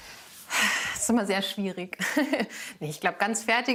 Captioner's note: sighs